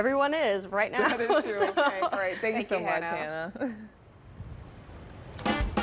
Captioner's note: laughter